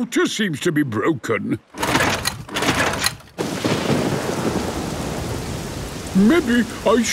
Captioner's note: engine struggling